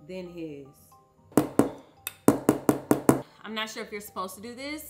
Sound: bowl clanking

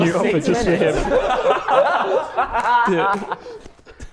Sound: Sidemen laughing

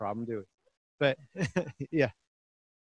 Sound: chuckles

